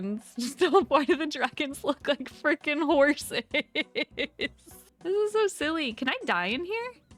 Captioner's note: laughing